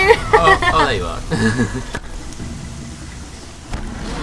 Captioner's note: laughs